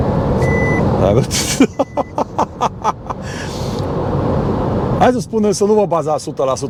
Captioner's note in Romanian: Râsete